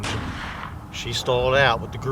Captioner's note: gunshot